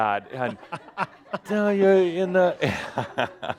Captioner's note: chuckling